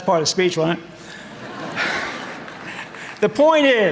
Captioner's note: audience laughing